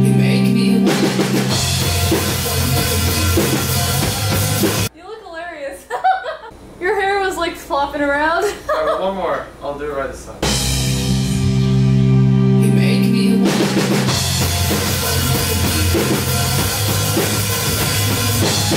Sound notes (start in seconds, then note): 5.8 laughs; 8.4 laughs; 13.4 heavy drumming